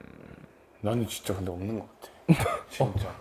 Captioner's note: confident